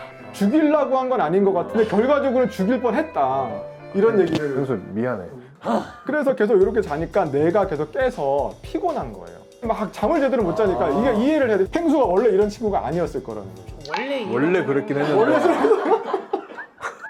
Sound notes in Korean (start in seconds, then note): 1.9 긁적긁적; 5.5 한숨